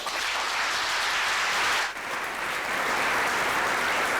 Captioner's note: applause